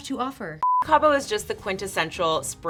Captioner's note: screen beeps